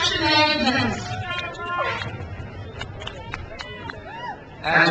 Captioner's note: crowd cheers